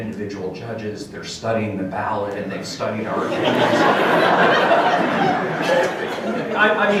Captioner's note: crowd laughter